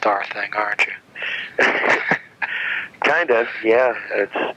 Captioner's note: laughs